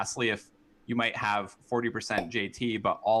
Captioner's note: popup pops